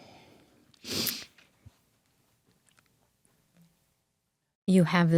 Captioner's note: sniffing